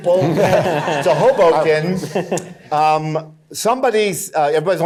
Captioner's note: in normal voice